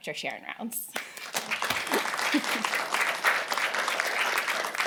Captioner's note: applause